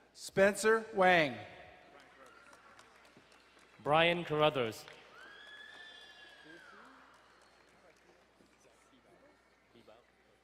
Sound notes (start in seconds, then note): 5.6 woman cheering